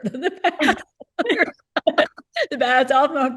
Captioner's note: laughter